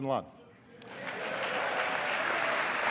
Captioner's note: applause